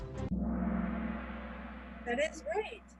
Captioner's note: gong